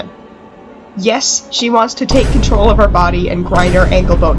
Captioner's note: boom; second boom